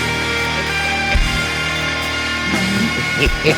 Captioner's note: victim laughing